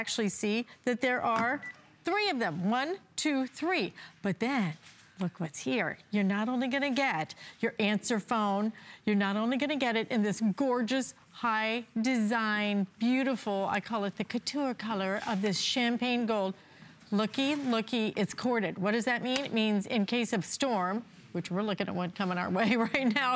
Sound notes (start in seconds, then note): 8.1 counting